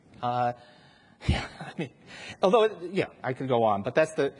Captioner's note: laughs